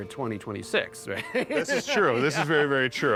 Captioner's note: laughs